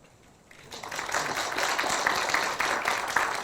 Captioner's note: applause